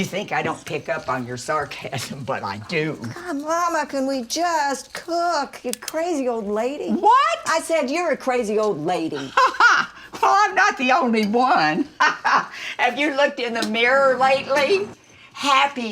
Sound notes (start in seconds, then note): 9.2 mama laughs; 11.9 laughs